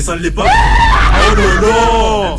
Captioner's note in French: Pleurs d'enfant